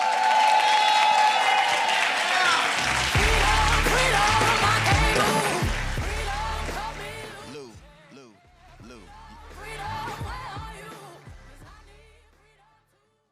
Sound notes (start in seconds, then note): 0.0 applause